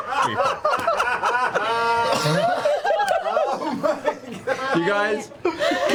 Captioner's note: all laugh